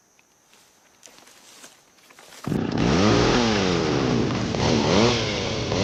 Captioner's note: chainsaw